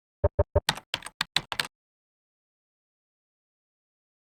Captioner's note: keyboard clacks